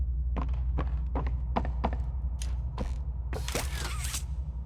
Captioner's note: footsteps